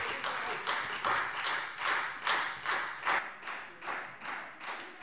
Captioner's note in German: Beifall Freie Demokraten